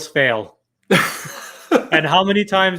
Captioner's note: chuckles